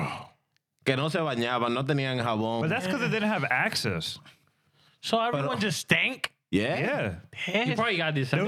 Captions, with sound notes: Bro. (Speaking In Spanish) But that's because they didn't have access. So everyone just stank? Yeah. Yeah. You probably got this.